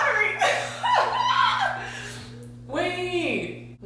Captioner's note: laughs